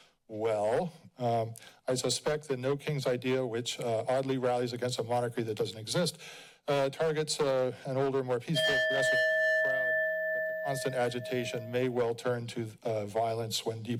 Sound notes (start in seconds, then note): 8.5 bell rings